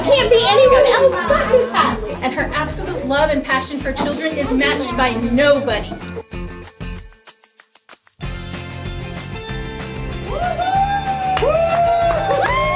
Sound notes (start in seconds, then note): 6.2 cheering and applause